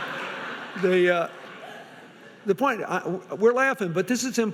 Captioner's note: audience laughing